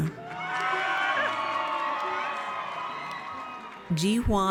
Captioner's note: audience cheers